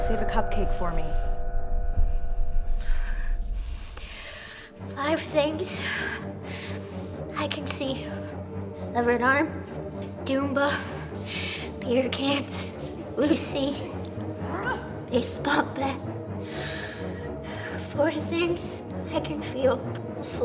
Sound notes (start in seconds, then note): 2.6 sound of deep breath